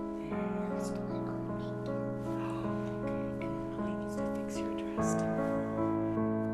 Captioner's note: whispering